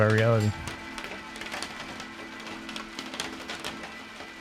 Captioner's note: rain pattering